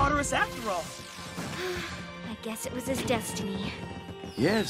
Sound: sighing

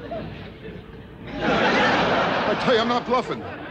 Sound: audience laughing

